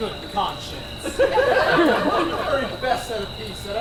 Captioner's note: audience laughs